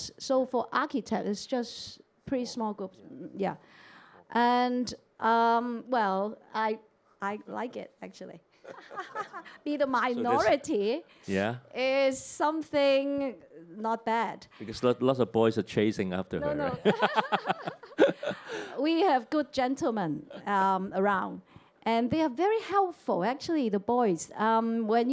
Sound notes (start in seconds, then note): 8.6 laughter; 16.4 both laugh